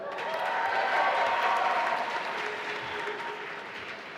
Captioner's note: applause